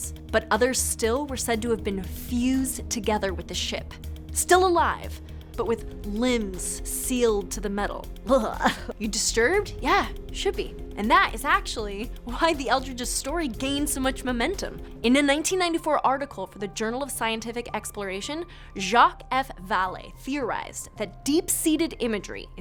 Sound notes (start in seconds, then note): 8.3 gagging